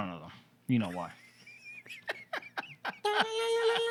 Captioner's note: laughter